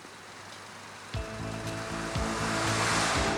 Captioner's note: tires squeal